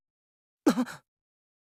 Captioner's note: gasp